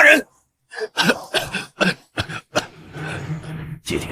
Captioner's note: cough cough cough cough